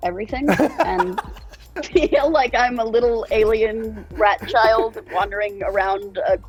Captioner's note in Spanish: risas